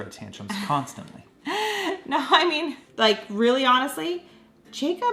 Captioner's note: laughing